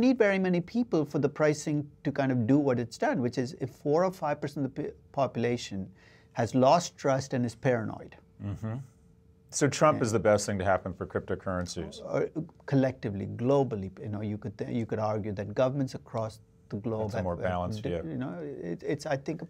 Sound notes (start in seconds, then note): 8.3 hums in agreement